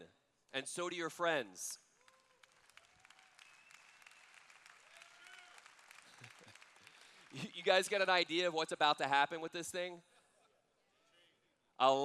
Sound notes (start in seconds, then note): 2.0 cheers